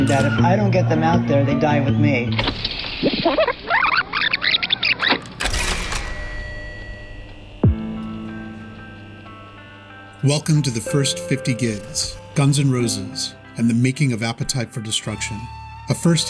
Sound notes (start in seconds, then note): 2.4 tape screeching